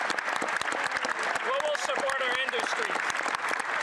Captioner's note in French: voix de l'interprète